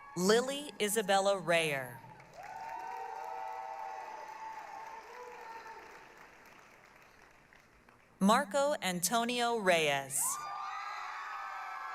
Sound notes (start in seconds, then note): 2.0 applause, cheering